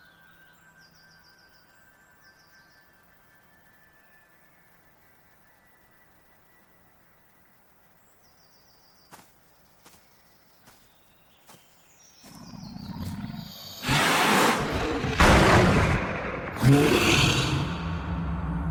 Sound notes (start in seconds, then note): 9.1 footsteps thumping; 12.4 snake growls